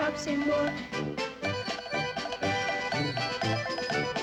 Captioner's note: shoes clacking